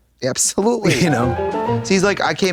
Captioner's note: bright chime